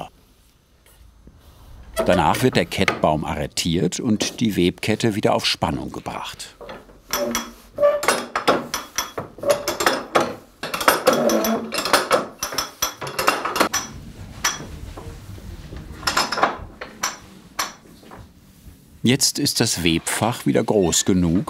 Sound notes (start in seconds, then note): 7.6 squeaking; 10.9 rattling and rattling